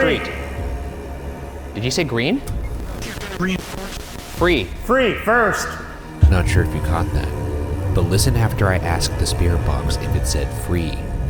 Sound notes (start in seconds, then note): 2.5 static crackles